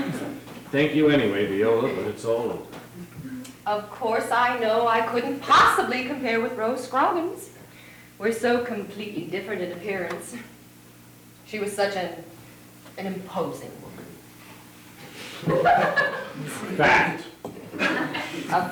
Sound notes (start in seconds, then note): 15.3 audience laughing